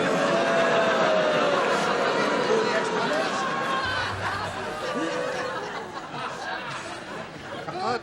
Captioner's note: audience booing